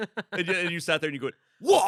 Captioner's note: laughs